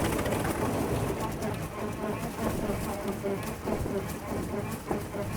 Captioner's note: aircraft continues whirring